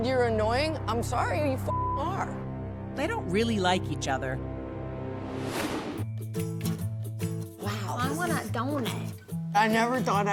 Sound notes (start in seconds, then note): none